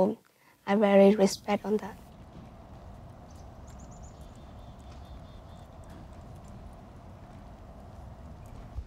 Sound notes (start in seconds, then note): 3.7 birds chirping